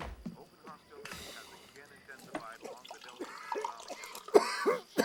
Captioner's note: hard coughing